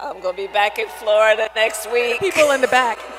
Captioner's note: laughs